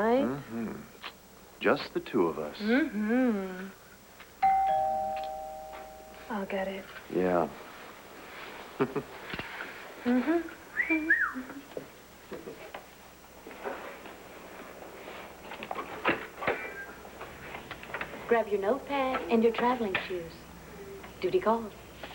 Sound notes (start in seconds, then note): 6.0 doorbell rings; 12.3 andrew whistles